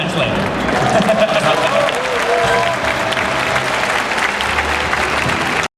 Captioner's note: audience applauding